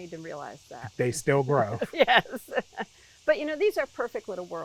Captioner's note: laughing